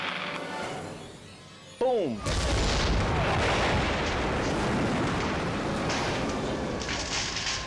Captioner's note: explosion booming